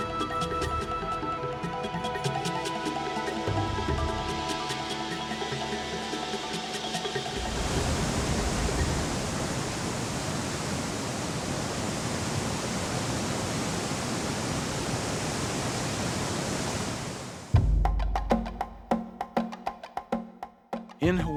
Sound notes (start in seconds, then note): 0.0 dramatic music and drums; 8.3 waterfall sounds; 17.5 dramatic music and drums